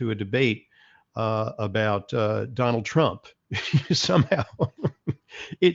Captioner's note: laughs